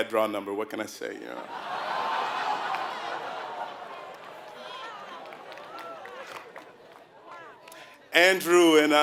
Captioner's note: laugh